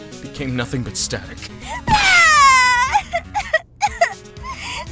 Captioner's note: sobbing!